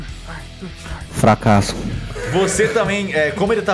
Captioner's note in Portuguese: risos